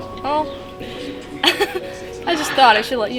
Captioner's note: laughing